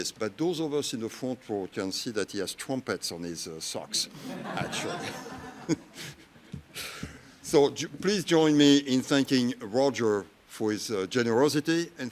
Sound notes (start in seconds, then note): 4.0 audience laughs